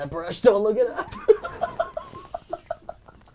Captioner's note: laughing